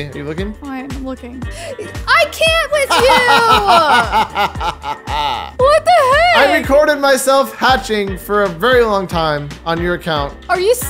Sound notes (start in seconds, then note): 2.8 DJ laughing